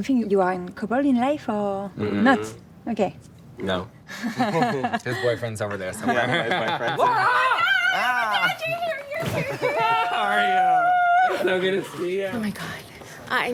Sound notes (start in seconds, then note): 4.1 interviewer and laughing; 9.4 squealing